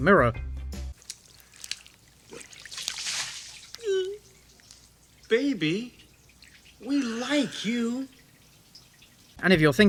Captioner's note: whimpering